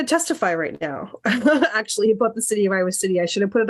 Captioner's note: laughter